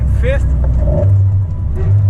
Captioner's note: downshifts into 4th